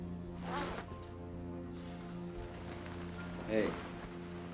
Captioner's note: zipper unzips